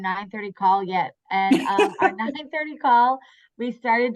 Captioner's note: laugh